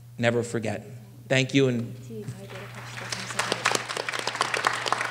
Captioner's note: applause